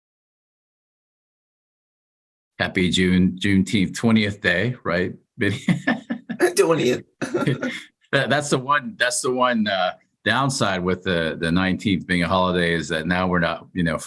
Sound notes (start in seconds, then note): 5.4 chuckles; 5.4 laughter